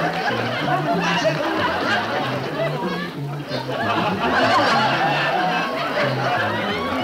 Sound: audience laughing; rhythmic music

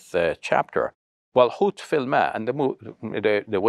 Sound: speaks foreign language

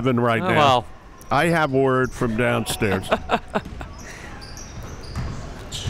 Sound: laughing

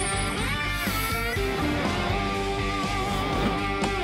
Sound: none

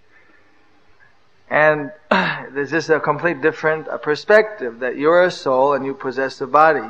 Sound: laughs

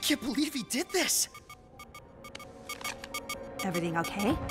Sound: radar beeping; tense music

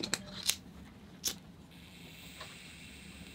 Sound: lighter igniting; candle wick sizzling

